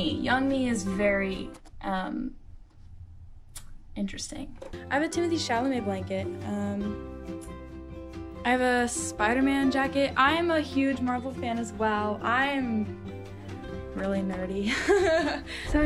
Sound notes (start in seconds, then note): 14.4 laughs